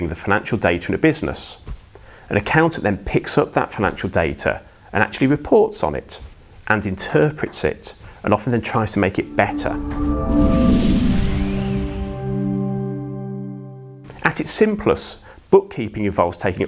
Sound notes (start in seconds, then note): 9.0 melodic sting; 9.8 bell dinging